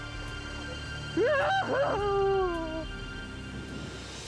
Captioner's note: howling